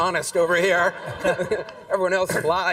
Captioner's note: audience laughs